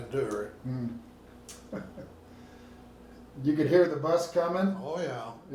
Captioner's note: laughing